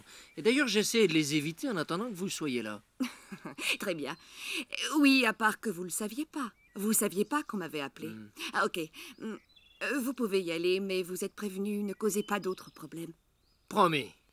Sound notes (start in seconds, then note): 3.0 laughter